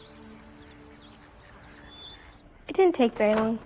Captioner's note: birds chirping